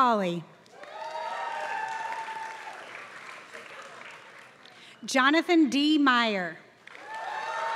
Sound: applause; applause

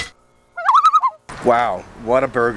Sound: loon calls

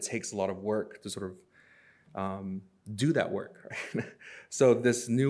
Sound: chuckles

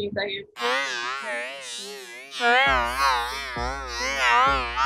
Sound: warped audio

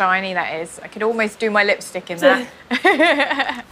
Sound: laughs

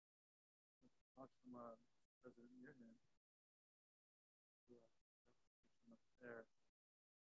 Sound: talking quietly off mic

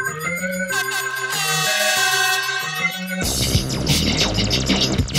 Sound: upbeat music; air horn blows

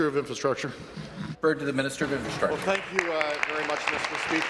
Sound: applause

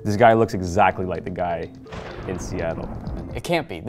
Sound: lightning crashes

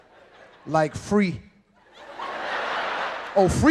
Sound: audience laughing

